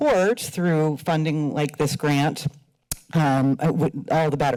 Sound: smacks lips

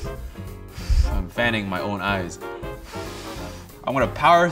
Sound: blowing; blows

